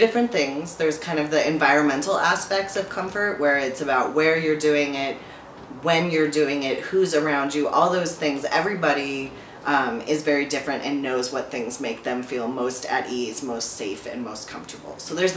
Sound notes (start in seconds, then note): none